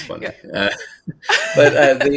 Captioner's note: laughs